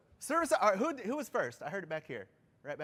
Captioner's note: off microphone